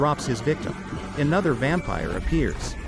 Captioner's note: chuckles evilly